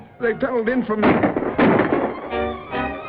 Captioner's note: gunshots